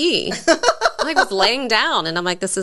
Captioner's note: laughs